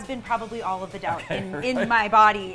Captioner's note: laughs